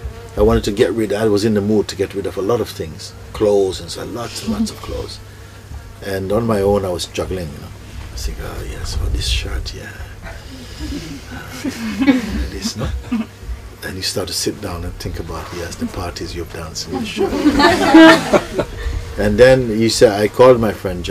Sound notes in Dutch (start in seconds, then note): 10.2 zacht gelach; 16.9 gelach